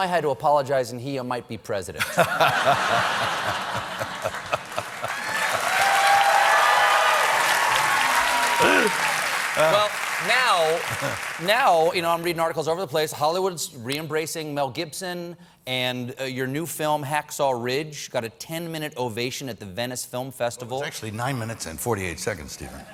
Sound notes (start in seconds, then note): 4.3 applause; 4.3 laughter; 6.2 cheers